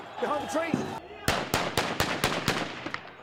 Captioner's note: gunfire